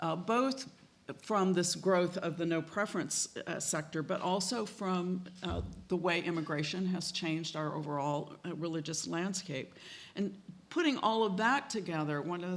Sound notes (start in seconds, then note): none